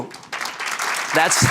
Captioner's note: applause